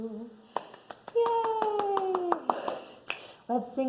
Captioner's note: clapping